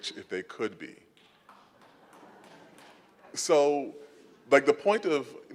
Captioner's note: applause and laughter